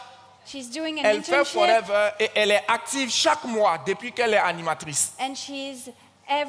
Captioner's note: continues in French; continues in French